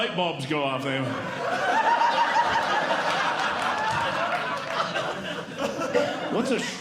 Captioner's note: audience Laughing